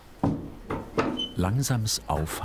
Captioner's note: squeaking